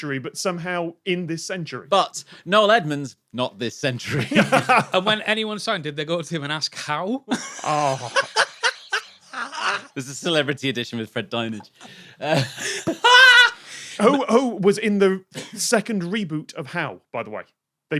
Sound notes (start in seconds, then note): 4.1 laughs; 7.4 cackles thru wheezing